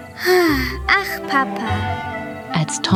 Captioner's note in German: sigh